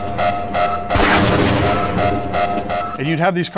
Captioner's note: siren; gunshot